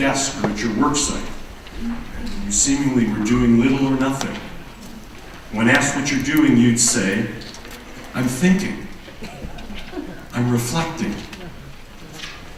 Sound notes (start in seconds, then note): 9.0 laughter